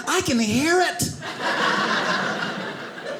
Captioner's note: audience laughing